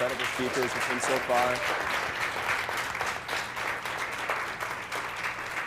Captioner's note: applause